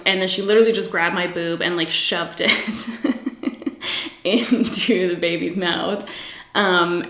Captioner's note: laughs